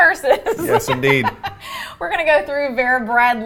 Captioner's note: laughing